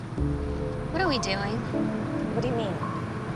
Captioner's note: voiceover